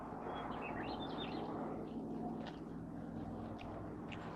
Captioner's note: birds chirping